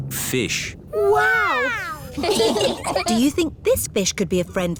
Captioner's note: laughing